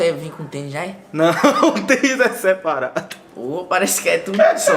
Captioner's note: laughing